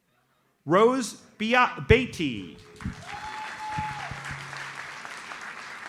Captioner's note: audience applauds